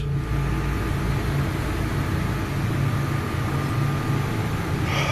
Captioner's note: machinery humming